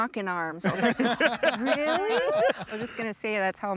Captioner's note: everyone laughs